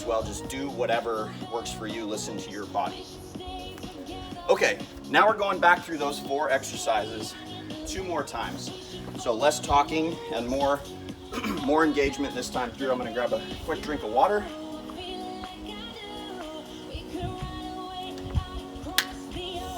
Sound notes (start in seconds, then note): 11.3 clears throat; 18.8 lid snaps shut